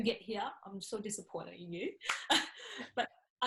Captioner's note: laughs